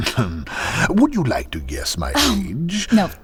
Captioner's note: laughing